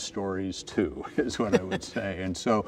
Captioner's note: chuckles